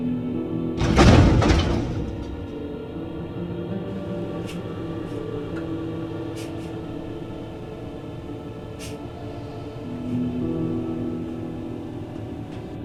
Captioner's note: ethereal horror music; painful shrieks